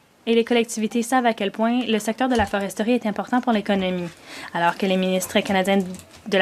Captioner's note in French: voix de l'interprète